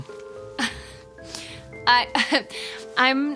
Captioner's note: laughs